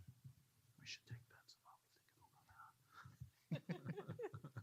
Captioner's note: quiet whispering